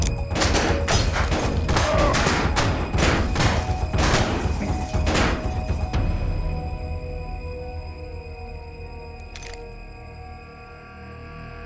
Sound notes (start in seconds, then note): 0.2 gunshots; 2.6 groans, gunshots continue; 9.2 uncocks gun